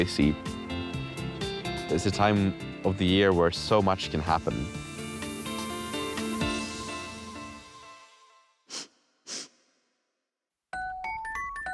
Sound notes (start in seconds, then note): 9.2 sniffing